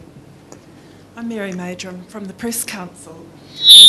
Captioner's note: microphone feedback noise